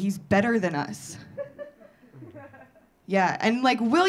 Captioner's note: audience laughing